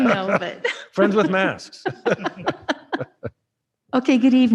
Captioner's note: laughing